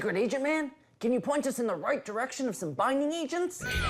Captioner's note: whispering